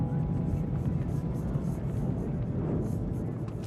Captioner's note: flames gushing